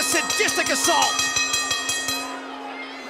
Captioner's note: bell ringing